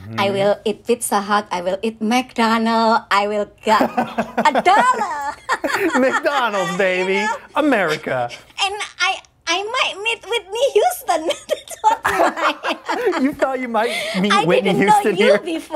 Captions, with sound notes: I will eat pizza hot, I will eat McDonald, I will get a dollar. -[laughs] McDonald's, baby, America. -I might meet Whitney Houston. [laughter] -You thought you might meet Whitney Houston here. -I didn't know you before,